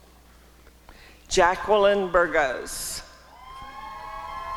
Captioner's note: applause and cheering